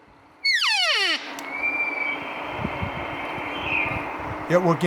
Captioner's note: bull Elk Bugle